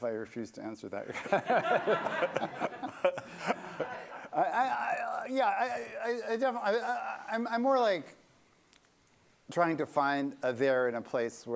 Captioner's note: laughter